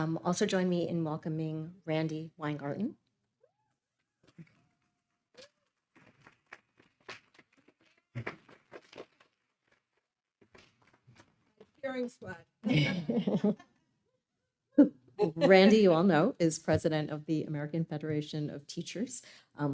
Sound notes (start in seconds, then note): 4.3 attendees clapping; 12.6 attendees laughing